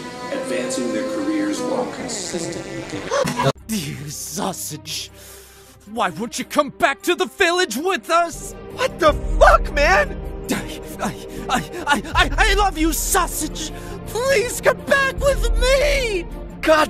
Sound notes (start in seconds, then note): 2.9 gasps